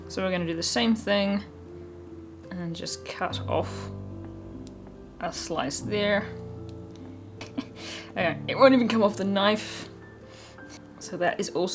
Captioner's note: giggles